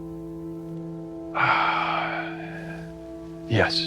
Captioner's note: exhales